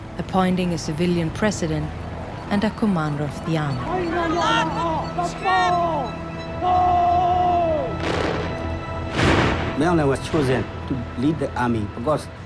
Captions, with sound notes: appointing a civilian president and a commander of the army. (yelling of orders) Aung Hlaing was chosen to lead the army,